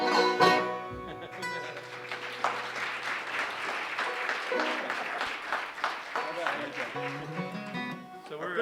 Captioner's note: laughter; applause